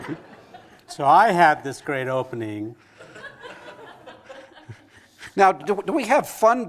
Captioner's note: laughter; laughter